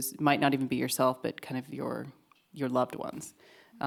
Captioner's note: none